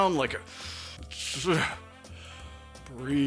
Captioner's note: sound of stifled rage